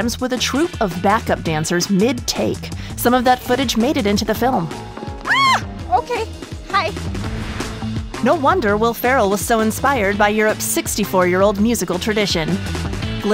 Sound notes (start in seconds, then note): 5.2 screams; 6.9 air whooshing